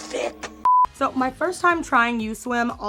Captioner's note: audio beeping